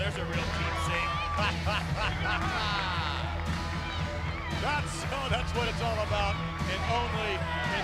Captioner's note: laugh